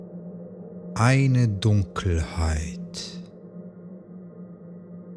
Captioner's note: german